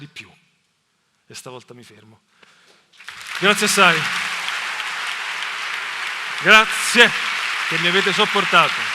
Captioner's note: applause